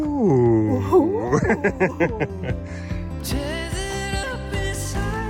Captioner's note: laughs